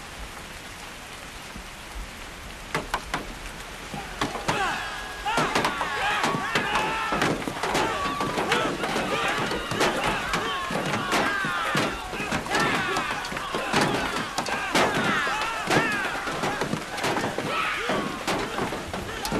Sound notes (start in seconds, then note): 5.8 all shouting; 15.5 shouting continues